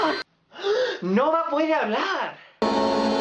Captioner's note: gasp